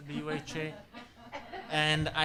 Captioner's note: audience laughing